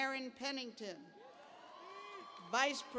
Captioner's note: cheers